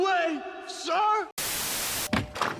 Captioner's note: static